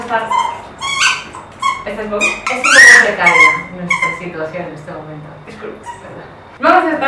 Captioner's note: playing with his noisy toy